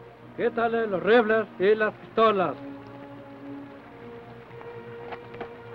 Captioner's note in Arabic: الرئيس يتحدث لغة أجنبية